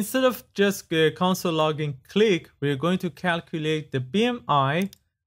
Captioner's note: click